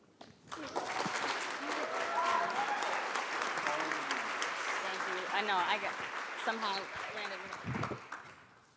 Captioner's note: applause